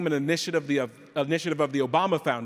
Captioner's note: none